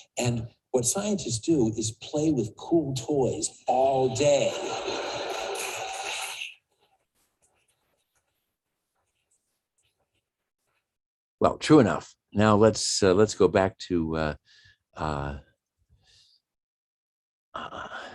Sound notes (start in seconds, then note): 4.1 audience laughs; 4.8 audience applauds